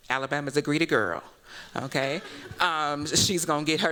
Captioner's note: laughter